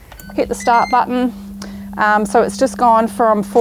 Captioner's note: air fryer beeps